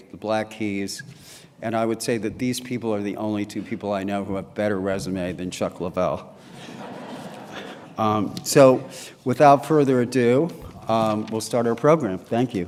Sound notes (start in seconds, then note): 6.4 laughter